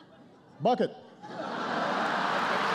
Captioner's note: laughter